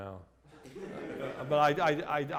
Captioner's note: laughter